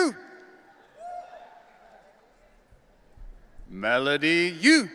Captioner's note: audience cheering